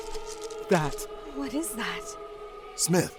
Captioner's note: wail